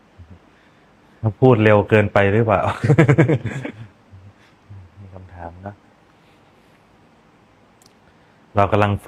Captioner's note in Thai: เสียงหัวเราะ